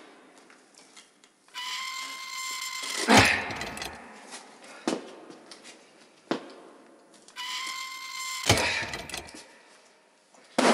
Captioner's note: scraping metal noises